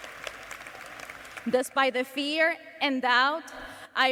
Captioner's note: cheers and applause